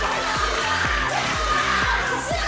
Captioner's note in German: Jubel